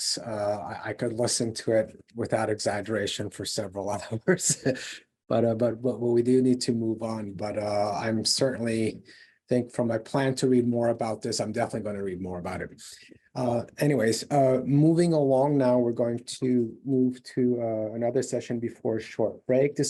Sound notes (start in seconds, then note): 3.8 laughs